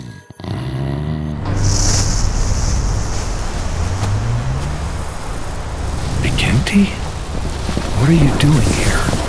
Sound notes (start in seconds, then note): 1.3 wind blows